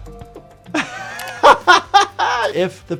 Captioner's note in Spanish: se ríe